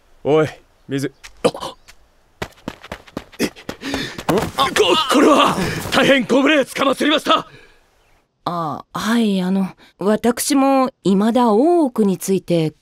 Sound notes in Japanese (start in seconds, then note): 2.3 走って近づく足音